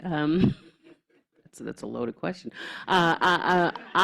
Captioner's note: laughter